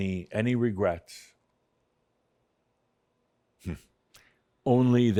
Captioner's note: slight pause